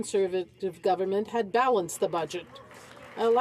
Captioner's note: some Applause